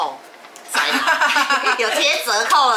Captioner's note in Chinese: 哈哈哈哈哈哈